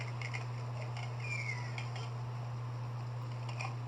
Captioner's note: Luxo Jr. Crying